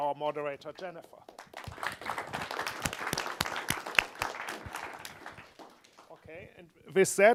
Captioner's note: audience applause